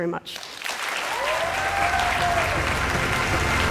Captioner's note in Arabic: تصفيق